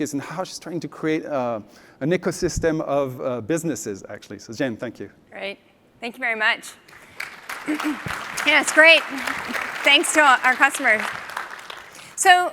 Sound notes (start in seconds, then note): 6.8 applause